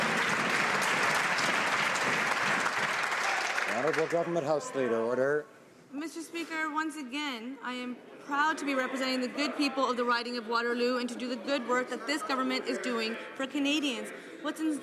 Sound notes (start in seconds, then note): 4.0 some Applause